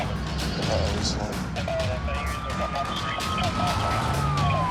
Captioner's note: sirens wailing; tires squealing